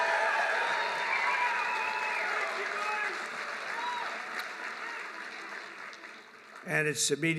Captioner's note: applause